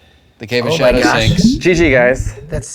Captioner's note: water bubbling